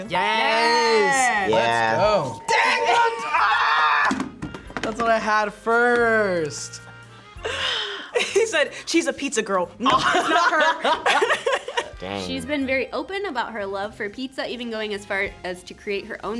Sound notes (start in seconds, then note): 2.6 screams; 9.8 laughs